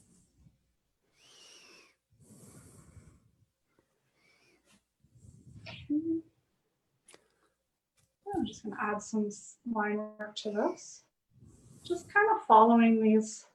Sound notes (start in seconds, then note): none